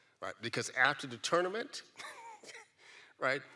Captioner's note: giggles